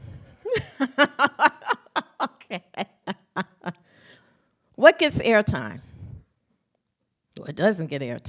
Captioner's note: laughs